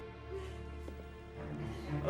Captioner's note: breathing heavily